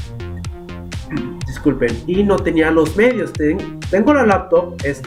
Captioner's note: burp